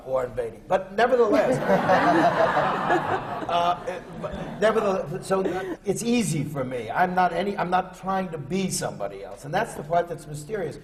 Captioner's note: laughter